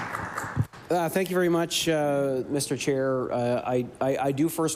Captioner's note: applause